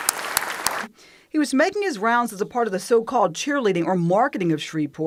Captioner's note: applause